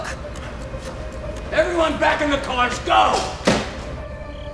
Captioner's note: car door opens